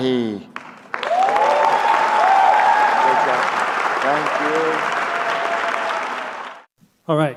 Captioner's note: applause